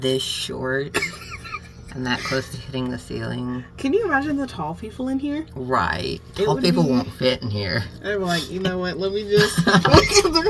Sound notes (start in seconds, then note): 0.9 laughs